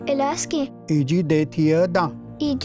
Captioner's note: repeats third word in Cherokee